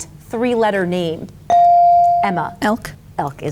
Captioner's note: bell dings